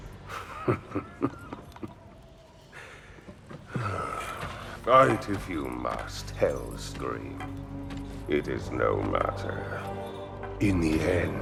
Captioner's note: laughs & sighs